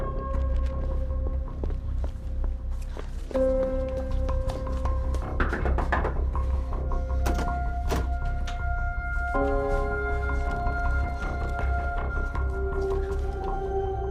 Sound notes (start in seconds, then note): 2.7 tense music continues; 5.5 knuckles rapping